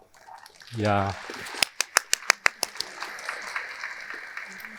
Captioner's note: audience applauding